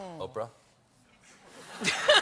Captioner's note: laughter